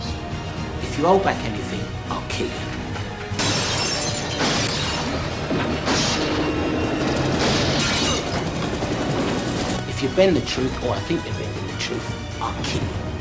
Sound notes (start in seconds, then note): 3.3 gunshots, glass breaking